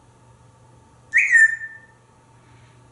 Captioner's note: whistling